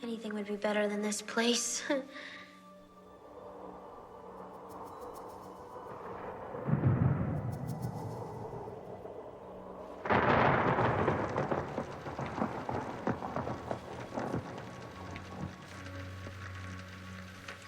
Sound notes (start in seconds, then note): 3.2 wind howling; 6.9 thunder rumbling